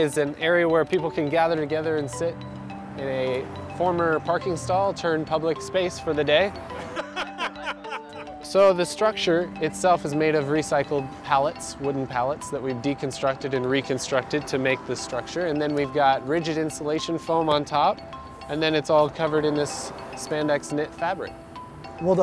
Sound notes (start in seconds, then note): 6.7 laughing